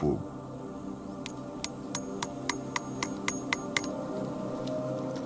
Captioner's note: metallic sound of hammer on nail